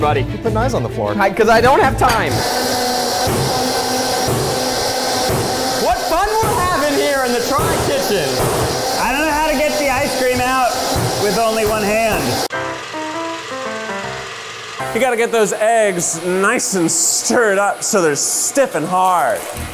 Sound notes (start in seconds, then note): 2.4 loud whirring and slamming; 8.3 slams; 12.4 old timey music